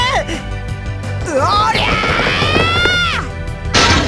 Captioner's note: horrified gasp; battle cry